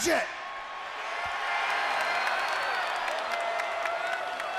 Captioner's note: audience cheers